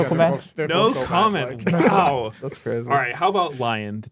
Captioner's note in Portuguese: risos